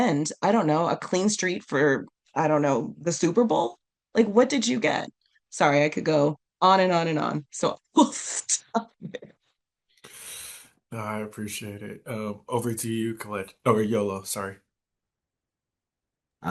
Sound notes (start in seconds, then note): 7.5 while laughing